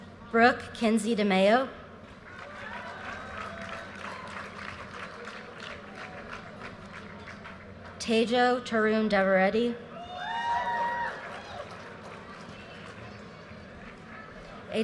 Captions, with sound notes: Brooke Kinzie De Mayo. (audience cheers and applause) Tajo Torundaradi. (audience cheers and applause)